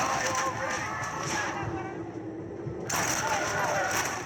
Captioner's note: sounds of cold blood and shoots; screams of zombie colos and shots this guns